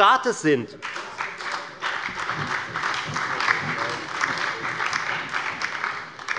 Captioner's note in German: Beifall bei der FDP sowie bei Abgeordneten der SPD und der LINKEN